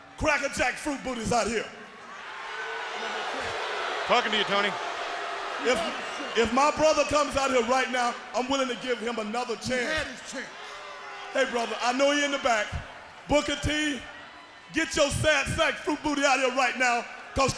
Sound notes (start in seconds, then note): 2.5 crowd boos